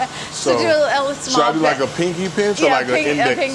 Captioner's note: laughs